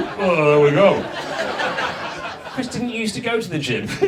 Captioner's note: audience laughs